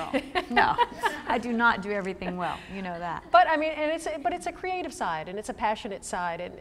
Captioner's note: laughter; laughter